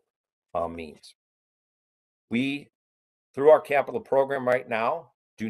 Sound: A pause

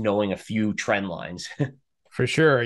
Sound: chuckles

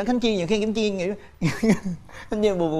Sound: laughs

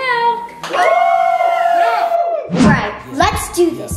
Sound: all cheering

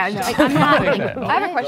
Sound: group laughing

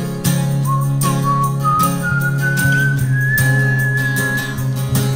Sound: whistling

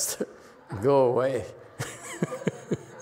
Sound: laughs

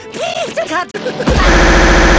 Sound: Tigger Laughing

